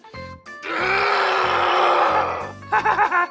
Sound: growling; Pee-Wee laughter

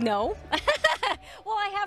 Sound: laughing

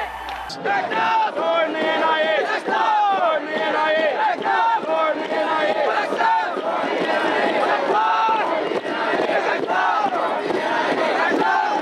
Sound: chanting

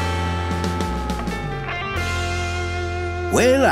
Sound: none

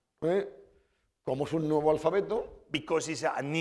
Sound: speaking spanish

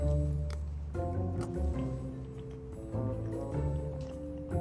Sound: eating

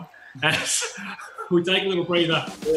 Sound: laughing

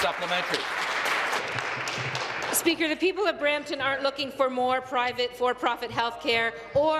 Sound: applause

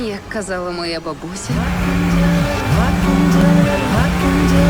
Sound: phone vibrating

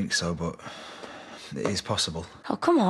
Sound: sighs

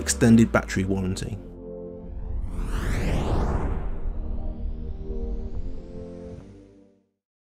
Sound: upbeat music fades out; whooshing sound

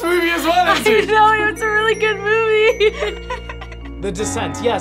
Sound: laughs

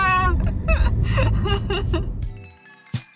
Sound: laugh

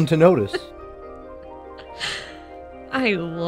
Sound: Lunis laughs

